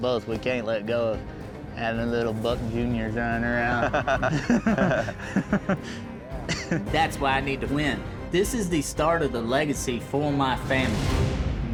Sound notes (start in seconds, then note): 3.7 laughter